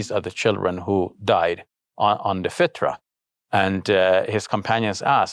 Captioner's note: speaking in foreign language